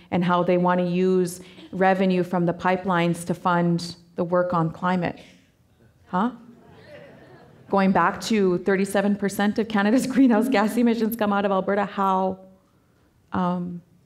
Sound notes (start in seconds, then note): 6.6 audience laughing